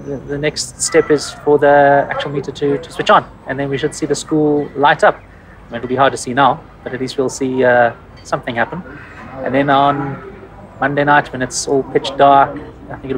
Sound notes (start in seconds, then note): none